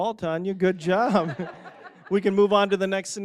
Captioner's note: audience laughing